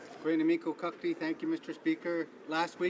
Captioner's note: speaking French